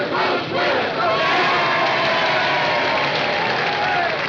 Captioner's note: all cheering